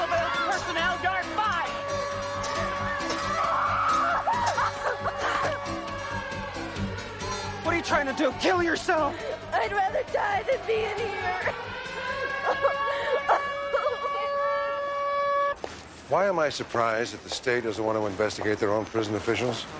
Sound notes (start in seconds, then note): 1.9 alarm blaring; 3.7 Carrie yelps; 12.1 Carrie sobbing